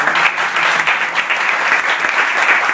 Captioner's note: applause